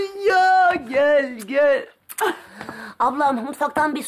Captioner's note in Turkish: Öpme sesi